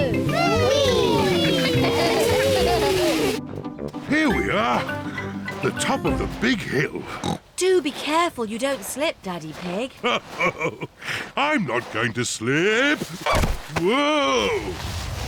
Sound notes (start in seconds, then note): 1.3 giggling; 7.0 snorts; 10.0 chuckles